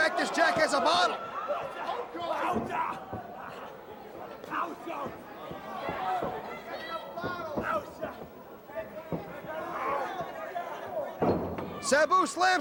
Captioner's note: crowd chatter